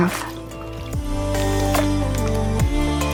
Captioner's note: sound of splashing water